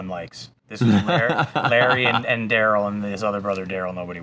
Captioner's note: laughs